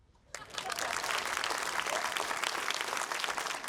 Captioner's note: applause